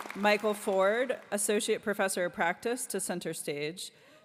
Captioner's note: applause